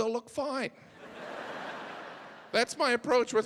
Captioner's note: audience laughing